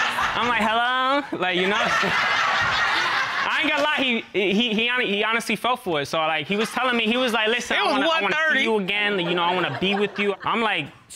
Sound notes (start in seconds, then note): 1.2 in high-pitched tone; 3.0 all laughing